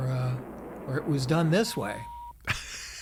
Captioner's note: rocket beeping; laughing